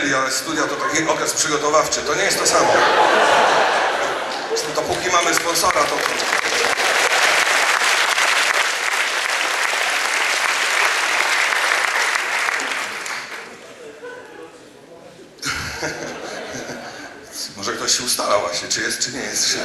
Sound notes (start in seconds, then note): 2.2 audience laughs; 4.8 applause